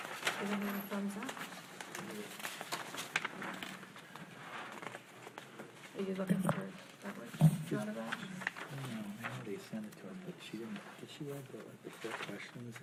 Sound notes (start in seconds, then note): 8.0 speaking faintly